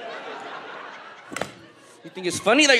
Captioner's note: audience laughs; wire whips